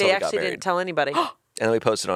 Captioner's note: Anna gasps